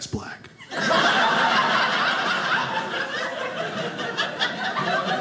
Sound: audience laughing

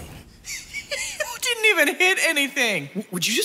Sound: laughs

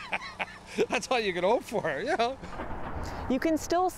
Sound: laughter

